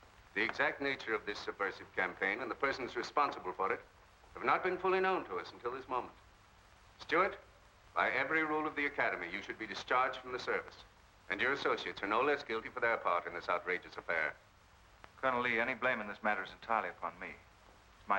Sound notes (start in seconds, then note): none